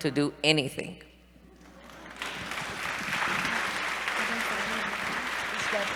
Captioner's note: applause